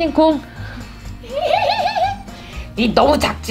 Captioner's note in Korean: 웃음